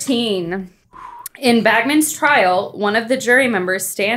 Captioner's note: air exhaling